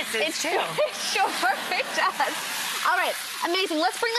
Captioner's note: laughs